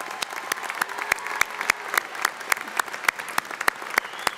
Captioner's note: audience applauding